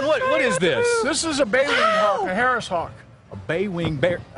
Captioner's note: screaming